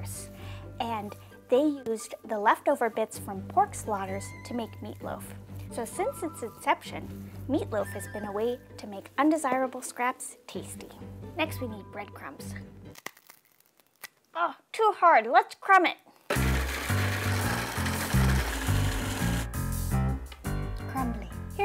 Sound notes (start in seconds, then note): 12.9 bread crunching; 16.3 processor whirring